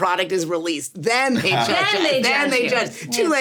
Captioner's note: SungWon laughs